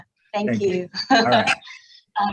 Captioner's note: chuckles